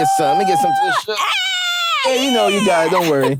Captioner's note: screaming